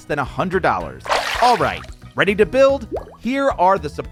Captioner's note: water splashing